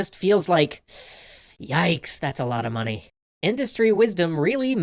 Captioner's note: breathes in sharply